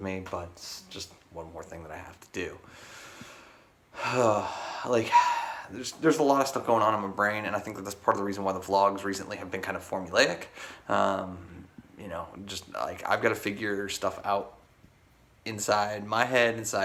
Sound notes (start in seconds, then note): 3.9 sighs